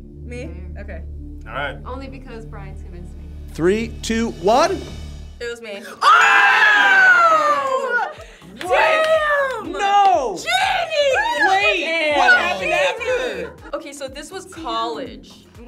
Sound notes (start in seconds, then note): 5.8 group yells